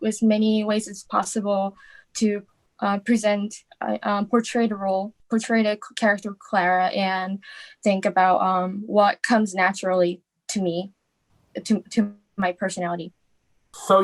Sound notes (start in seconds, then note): none